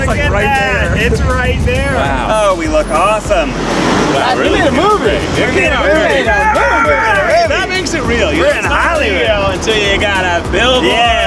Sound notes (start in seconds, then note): 5.4 boys cheer